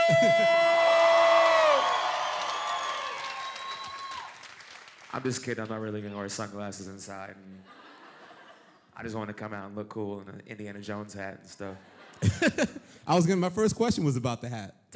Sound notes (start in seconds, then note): 0.9 applause; 7.6 laughter; 11.7 laughter